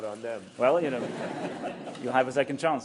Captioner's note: laughter